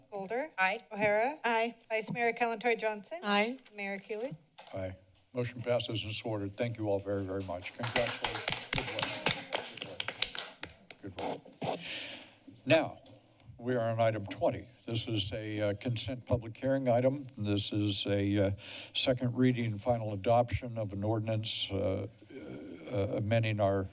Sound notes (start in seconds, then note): 7.6 applause